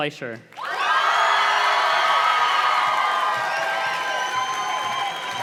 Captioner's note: audience cheers and claps